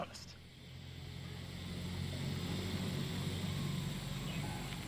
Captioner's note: insects chirping